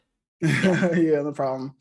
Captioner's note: chuckles